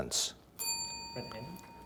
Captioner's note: bell dings